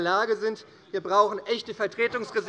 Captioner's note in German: Lachen des Abg